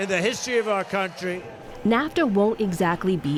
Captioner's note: cheering and applause